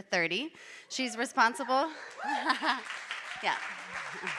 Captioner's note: audience applauding